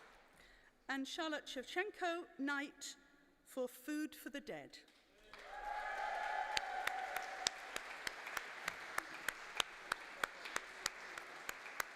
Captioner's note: applause; applause